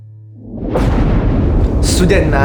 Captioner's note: thunderclap